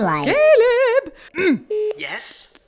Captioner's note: clears throat